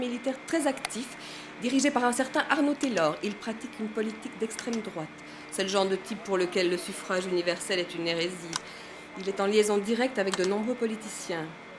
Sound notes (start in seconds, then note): 4.6 typing